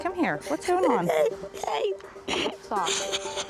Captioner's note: crying